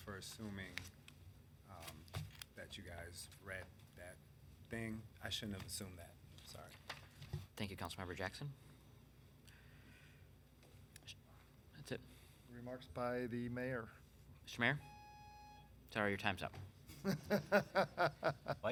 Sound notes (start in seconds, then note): 14.8 alarm buzzing; 16.9 laughing